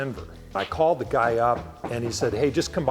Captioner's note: knocks garage door